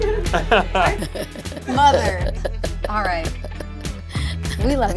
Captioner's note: laughing; laughs